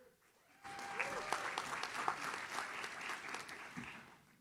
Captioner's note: audience claps